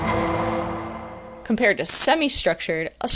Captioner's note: Law and Order SVU sound